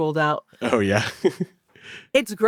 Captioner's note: chuckles